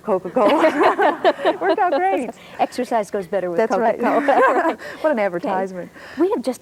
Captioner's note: laughs